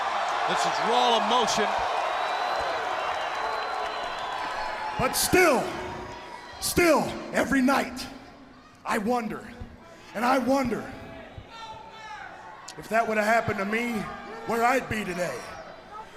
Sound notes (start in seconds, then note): 8.7 crowd cheering